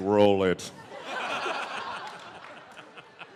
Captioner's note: laughter